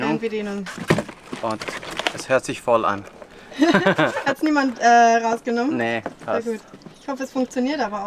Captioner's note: laughter